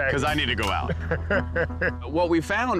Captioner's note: chuckles